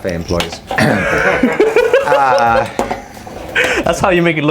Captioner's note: laughing